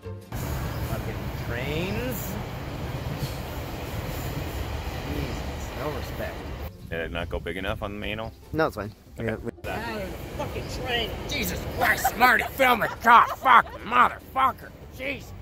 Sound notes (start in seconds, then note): 3.3 train roaring past